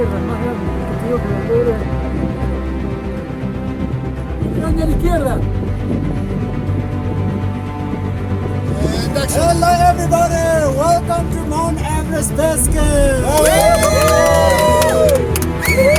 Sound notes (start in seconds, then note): 1.7 different voices